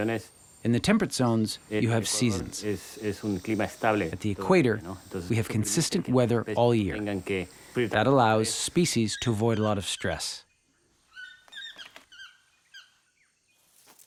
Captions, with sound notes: In the temperate zones, you have seasons. At the Equator, we have consistent weather all year. That allows species to avoid a lot of stress. (squeaking)